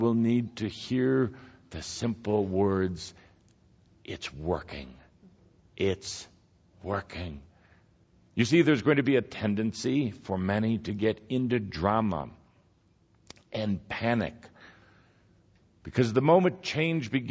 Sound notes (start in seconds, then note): none